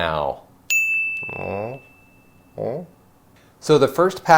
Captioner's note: bell rings